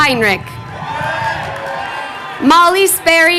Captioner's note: crowd cheering